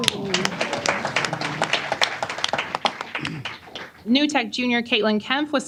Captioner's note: applause